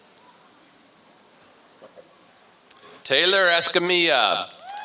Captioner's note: applause